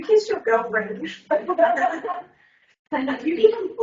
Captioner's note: everyone laughs